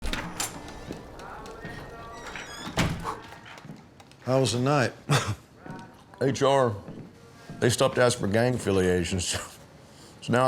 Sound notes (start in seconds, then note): 0.0 door creaks; 6.7 laughs